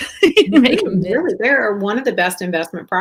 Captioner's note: laughs